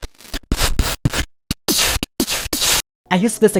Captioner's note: digital sounds